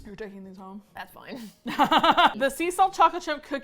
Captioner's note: both laugh